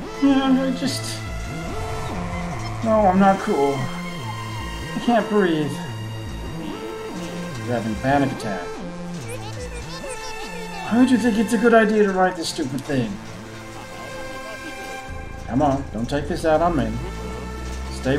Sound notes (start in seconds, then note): 1.2 howling wind